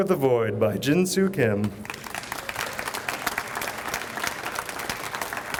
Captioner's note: audience applauds